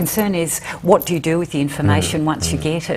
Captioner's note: whispers